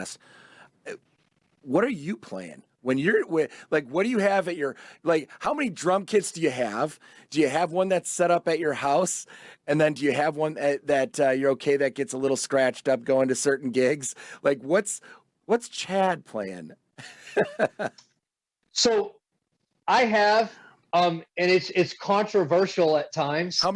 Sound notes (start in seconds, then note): 17.0 chuckles